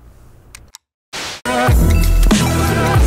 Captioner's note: static; upbeat music